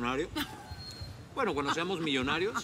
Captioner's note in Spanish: risas